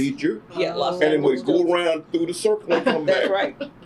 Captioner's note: laughter